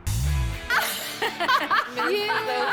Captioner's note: all laughing